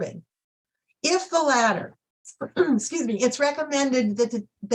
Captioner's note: clears throat